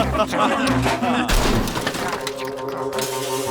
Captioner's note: laughter; crashing